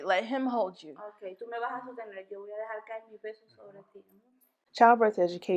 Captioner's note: in foreign language